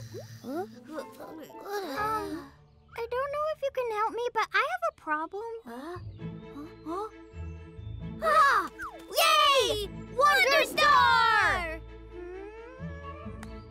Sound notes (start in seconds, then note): 10.1 both exclaim excitedly